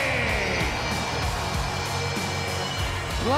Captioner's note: crowd cheering